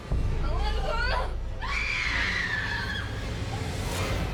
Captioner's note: screams